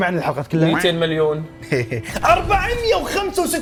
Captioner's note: laughs